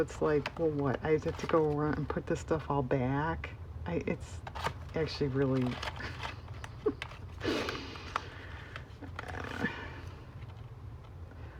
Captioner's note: laughs